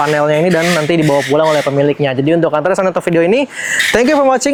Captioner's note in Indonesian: tertawa